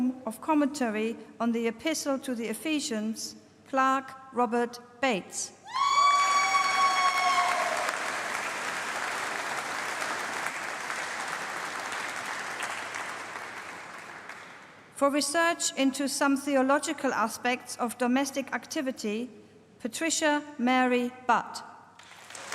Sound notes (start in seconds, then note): 6.5 applause; 22.0 applause